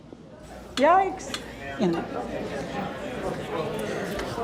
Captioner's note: audience talking